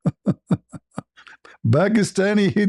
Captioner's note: ketawa